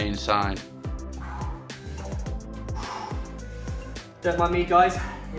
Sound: heavy breathing

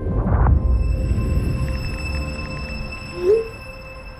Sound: texting; text alert

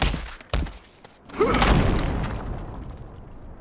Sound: grunting

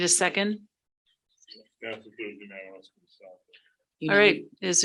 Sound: speaking distantly

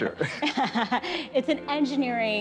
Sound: chuckles

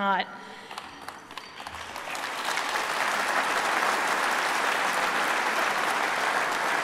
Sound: applause

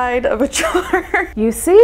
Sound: laughing

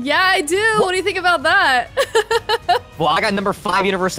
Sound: laughs

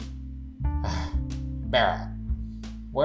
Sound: sighs

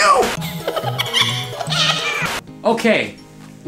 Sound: maniacal laughter

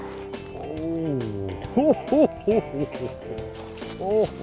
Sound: chuckling

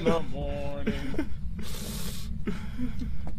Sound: giggles, inhales through teeth

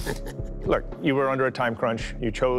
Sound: laughs

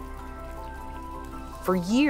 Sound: raindrops splash

